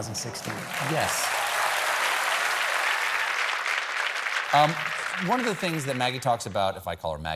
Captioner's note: applause